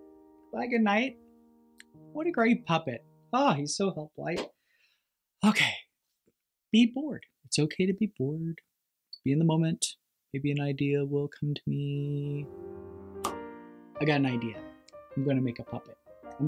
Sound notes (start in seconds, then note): 12.2 building piano music; 13.2 popping sound